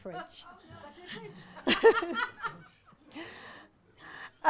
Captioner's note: audience laughs